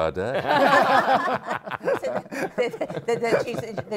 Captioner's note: laughter